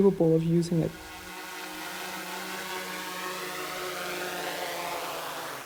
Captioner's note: sounds of a drone landing